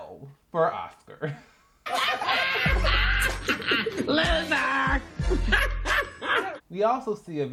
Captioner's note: laughter